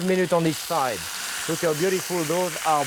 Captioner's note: meat sizzling